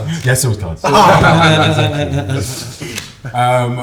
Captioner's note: laughter